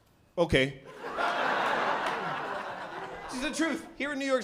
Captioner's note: laughter